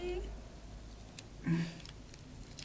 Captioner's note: struggling